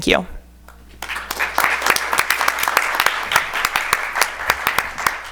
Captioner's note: attendees applaud